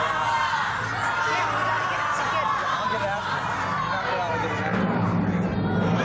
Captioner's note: audience clamoring; drum-roll